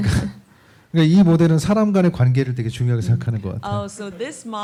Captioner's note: speaking korean